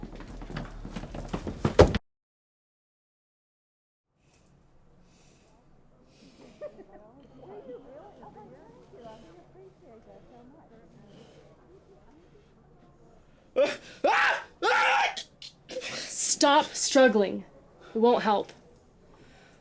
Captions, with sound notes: (people chattering and laughing) (Alan screaming) - Stop struggling. It won't help.